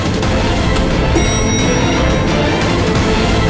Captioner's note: Lift door opens